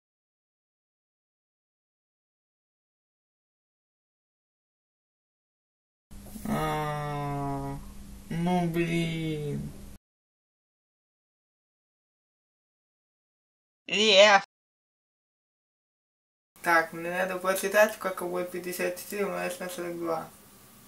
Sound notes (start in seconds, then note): 8.6 lowering the voice tone